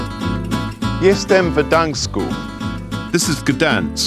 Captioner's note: meades speaking polish